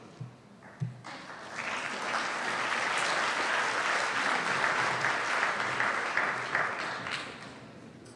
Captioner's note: applause